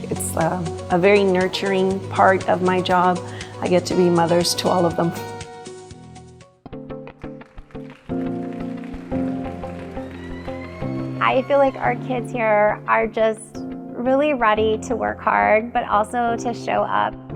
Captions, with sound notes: It's a very nurturing part of my job. I get to be mothers to all of them. (upbeat music) (audience applauding) - I feel like our kids here are just really ready to work hard, but also to show up.